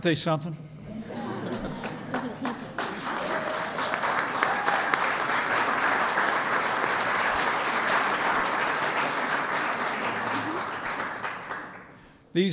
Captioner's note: laughter and applause